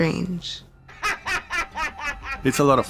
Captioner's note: laughing